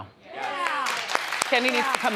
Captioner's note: audience applauds